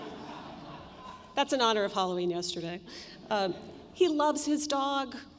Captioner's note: laughter